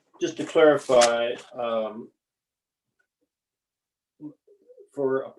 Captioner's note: pages rustling